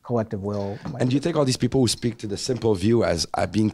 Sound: voiceover

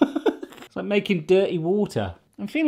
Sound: chuckling

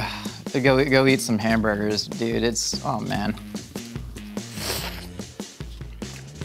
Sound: slurps

